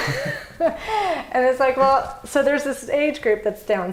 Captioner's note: laughs